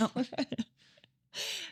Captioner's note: laughing